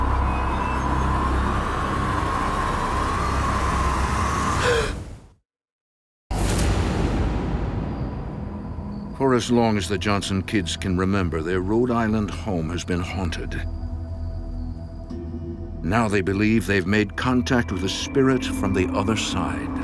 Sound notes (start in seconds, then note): 3.7 Carl gasping; 6.7 theme music